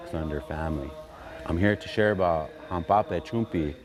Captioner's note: speaking in Dakota